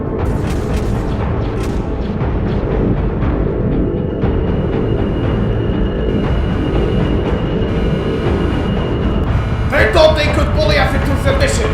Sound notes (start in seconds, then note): none